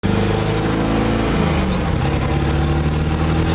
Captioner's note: truck engine